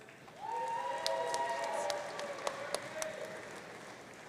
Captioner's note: audience cheering